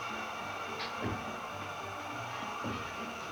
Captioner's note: gas hissing; gentle music